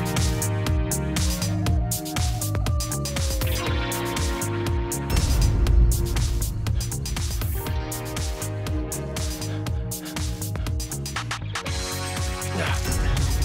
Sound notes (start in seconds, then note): 0.7 wolf howls; 5.1 dramatic bang; 9.2 fast breathing; 12.4 grunt